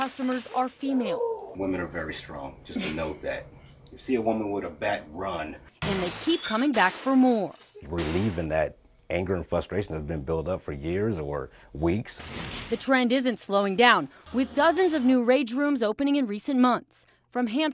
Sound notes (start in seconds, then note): 5.8 nat: smashing